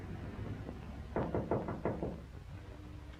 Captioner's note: knocking